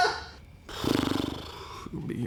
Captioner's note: crew member laughing; blowing raspberries